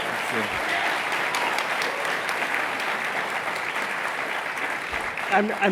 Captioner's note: applause